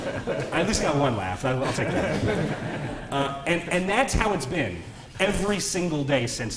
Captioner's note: laughter